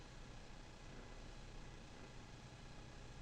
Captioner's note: none